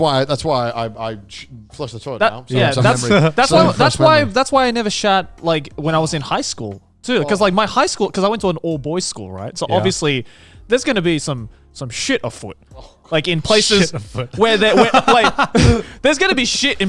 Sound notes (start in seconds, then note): 12.9 laughs